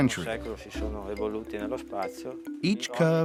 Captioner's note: Italian spoken audio